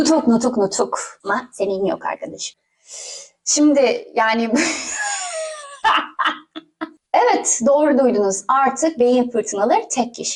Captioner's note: hysterics